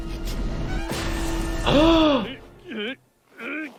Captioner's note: gasps